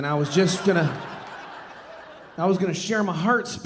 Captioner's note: audience laughing